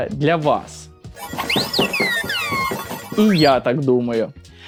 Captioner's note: very angry robot sounds